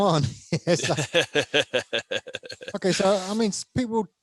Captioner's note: laughs